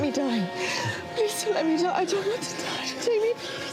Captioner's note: sobs